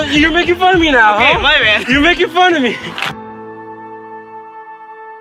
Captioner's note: laughing